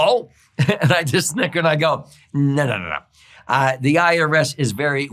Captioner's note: laughs